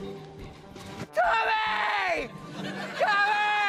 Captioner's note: yells